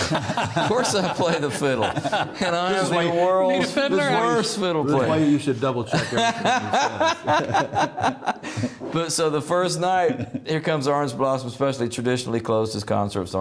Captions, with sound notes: (laughing) "Of course I play the fiddle", and I'm the world's worst - Need a fiddler. - Fiddle player. - That's why you should double check everything he says. (laughing) - So the first night, here comes "Orange Blossom Special" supposedly traditionally closed his concerts with